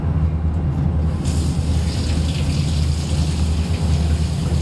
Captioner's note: water flowing from faucet